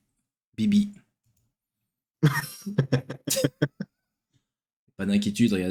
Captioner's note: laughter